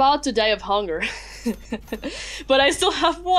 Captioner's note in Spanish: se ríe de hambre